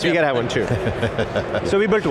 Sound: laughs; chuckling

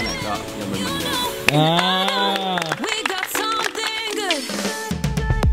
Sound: applauding; cheering

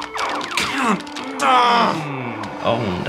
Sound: video game music and sound effects; frustrated groan

